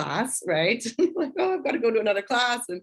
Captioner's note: laughter